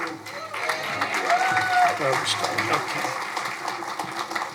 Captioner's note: crowd applauding